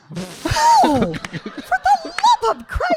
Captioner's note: audience laughing